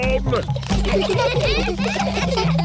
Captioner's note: children giggling